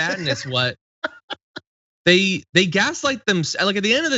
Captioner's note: laugh